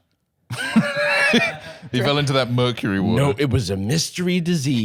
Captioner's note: laughs